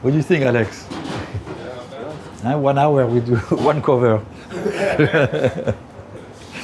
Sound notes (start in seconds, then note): 4.4 laughs